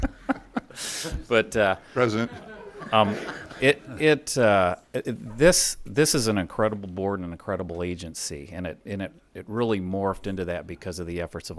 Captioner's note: laughter